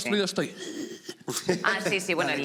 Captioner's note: gasps; laughs